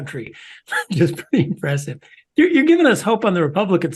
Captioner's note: laugh